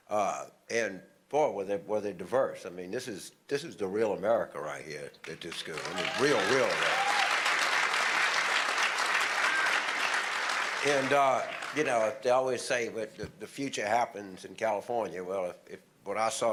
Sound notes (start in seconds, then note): 5.2 applause